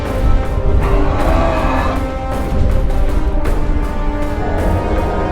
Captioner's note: multiple Dragons roaring